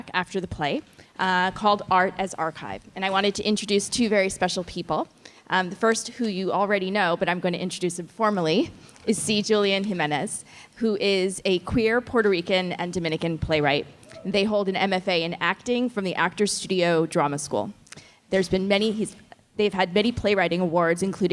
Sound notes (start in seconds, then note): none